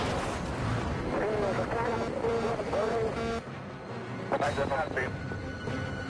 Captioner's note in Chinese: 無線電